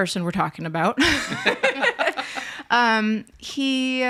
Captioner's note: group laughs